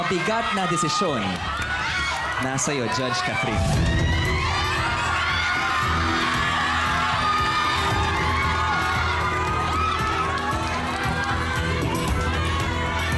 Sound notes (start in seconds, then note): 3.6 stirring music continues; 4.7 overlapping screaming